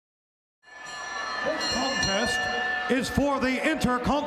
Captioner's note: bell ringing